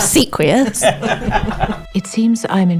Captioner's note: laughter